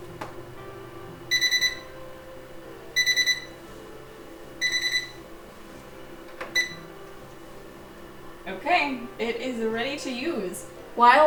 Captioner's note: series of three triple beeps